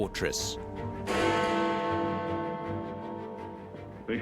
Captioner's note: bell tolls